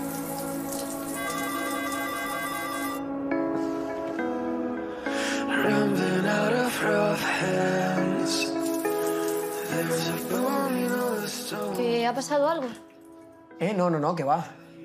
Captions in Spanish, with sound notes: (Telefonillo) "¿Ha pasado algo? No, no, no, qué va".